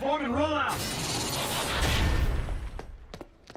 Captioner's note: autobots transforming